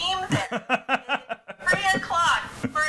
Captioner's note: laughs